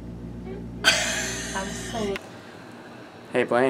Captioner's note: laughs